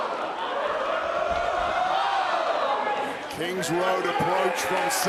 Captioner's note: crowd cheers